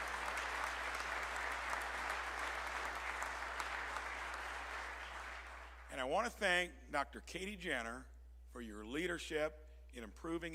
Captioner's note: applause